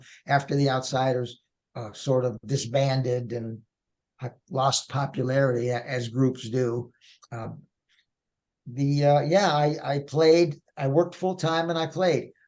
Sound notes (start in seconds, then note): none